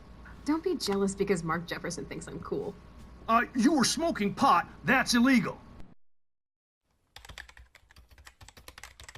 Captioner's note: none